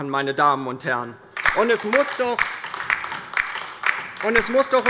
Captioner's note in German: Beifall bei der LINKEN